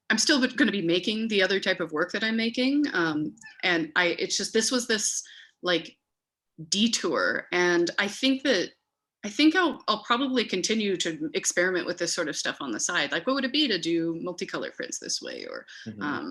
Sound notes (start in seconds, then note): none